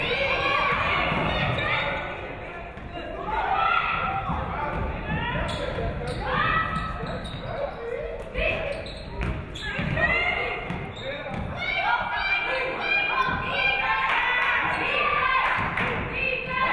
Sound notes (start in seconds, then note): 11.7 audience cheering